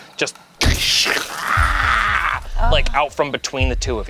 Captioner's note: grumbles